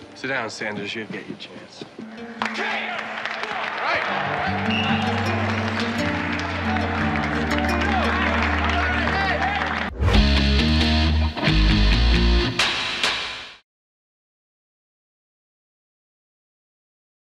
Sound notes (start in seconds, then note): 2.6 team cheering; 3.8 light music continues; 4.6 crowd cheering; 7.3 dramatic music